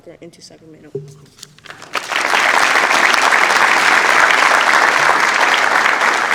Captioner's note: applause